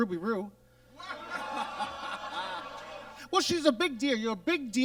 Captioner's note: audience laughs